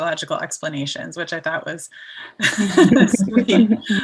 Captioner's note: all laughing